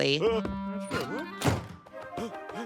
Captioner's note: door slamming; panting